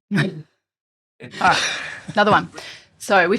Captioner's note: laughs